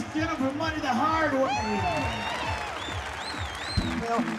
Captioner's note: crowd cheers, claps